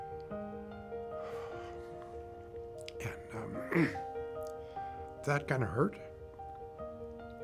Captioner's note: sighing